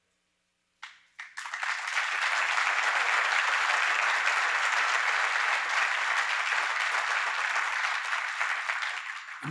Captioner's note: applause